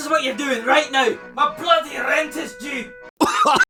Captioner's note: cough